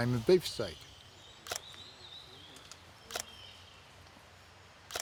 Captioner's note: shutter clicking